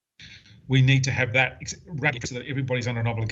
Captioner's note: audio distorts